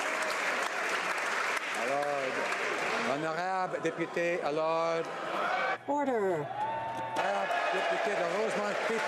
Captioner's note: some Applause